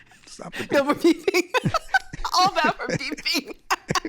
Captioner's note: laughing